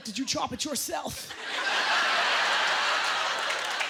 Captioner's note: applause; laughter